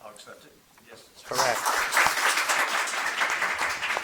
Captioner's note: audience clapping